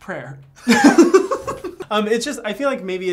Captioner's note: both laughing